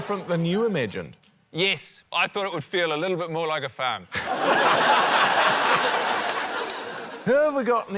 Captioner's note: laughter